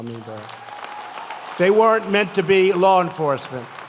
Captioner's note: applause